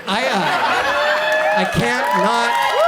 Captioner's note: audience cheers